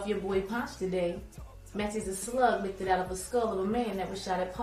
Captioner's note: voiceover